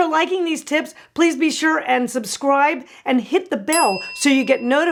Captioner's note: bell dings